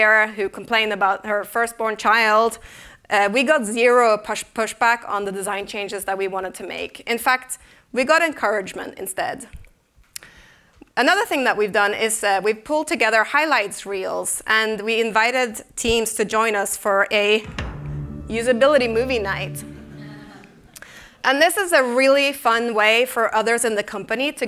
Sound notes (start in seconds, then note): 17.4 netflix startup tone; 19.6 laughter